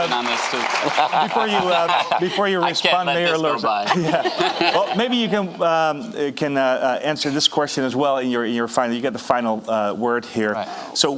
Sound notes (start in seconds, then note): 0.0 audience applauding; 3.9 audience laughing